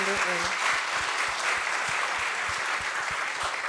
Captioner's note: applause